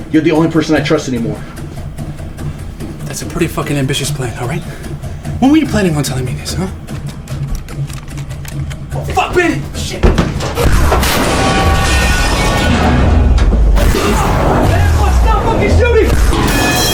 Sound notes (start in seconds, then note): 10.1 guns firing; 16.7 metal clanking